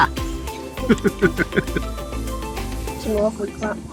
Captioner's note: laughing